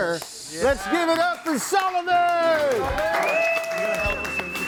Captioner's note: audience applauds and cheers; upbeat music